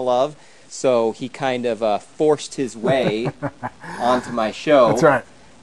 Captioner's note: laughs